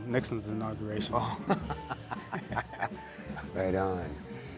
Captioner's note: jazz music; laughter; jazz music